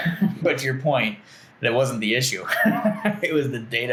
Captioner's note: laughing; laughs